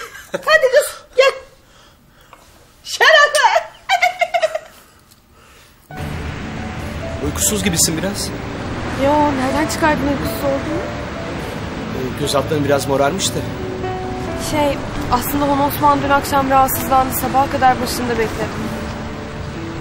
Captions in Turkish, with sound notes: Hadi kız, gel. Şerefe. [GÜLME SESİ] Uykusuz gibisin biraz. Ya, nereden çıkardın uykusuz olduğumu? Göz altların biraz morarmış da. Şey, aslında Honosman dün akşam rahatsızlandı. Sabaha kadar başında bekledim.